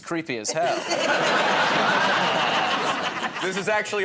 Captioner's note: laughter